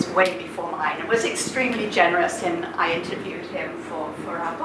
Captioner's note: none